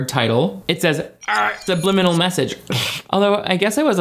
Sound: groans

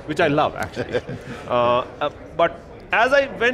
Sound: chuckles

